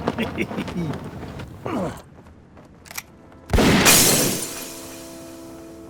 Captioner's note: gunshot